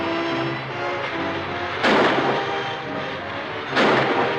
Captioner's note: gun firing